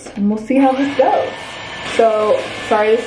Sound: blow dryer whines

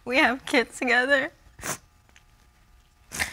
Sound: sniffles

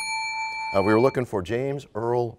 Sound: bell rings, time expires

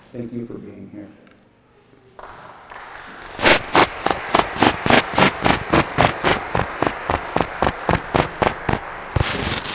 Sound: applause

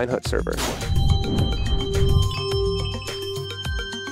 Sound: whoosh and chimes

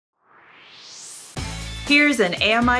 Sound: swoosh

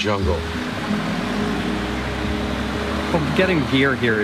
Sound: truck engine

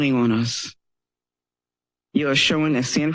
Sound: pause

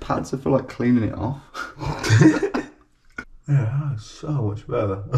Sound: both laughing

